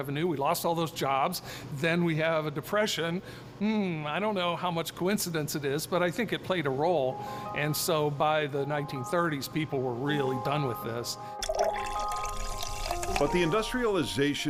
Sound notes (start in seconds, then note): 11.4 liquid pours and fizzes